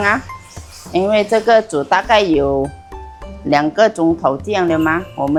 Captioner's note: slip